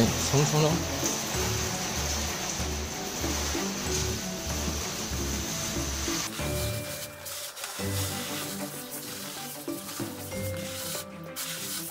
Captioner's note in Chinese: 水柱洗车声